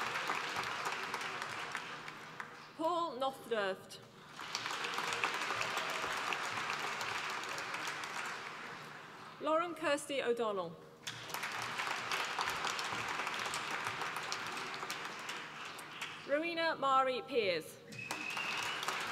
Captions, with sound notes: Paul Nothdurft, (APPLAUSE) Lauren Kirsty O'Donnell, (APPLAUSE) Rowena Mairi Piers, (APPLAUSE)